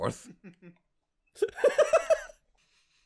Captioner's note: laughing